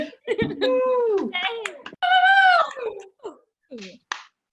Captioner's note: attendees applauding